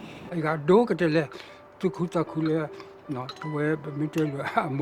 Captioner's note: speaking in foreign language